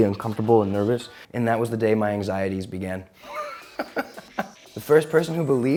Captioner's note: chuckles